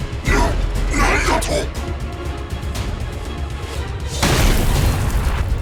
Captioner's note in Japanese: うめき声